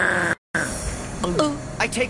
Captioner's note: gulp